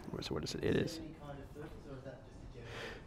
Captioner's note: voiceover